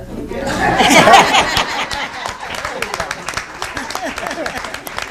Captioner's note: audience laughing